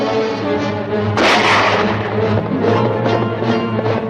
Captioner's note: gun cocks; gun fires